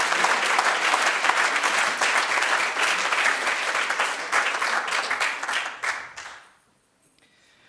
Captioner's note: audience applauds